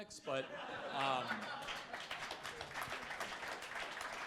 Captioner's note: crowd applauding